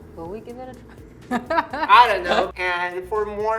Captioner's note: chuckles